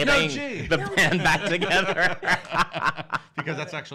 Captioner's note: laughs heartily